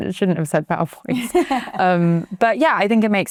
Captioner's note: chuckling